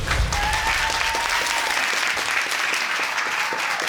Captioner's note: cheering and applause